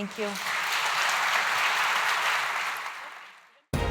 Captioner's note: applause